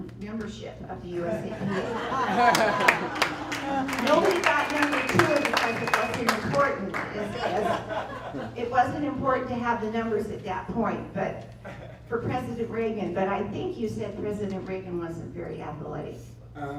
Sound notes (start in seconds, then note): 2.4 applause